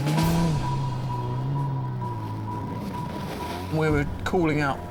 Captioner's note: engine rumbling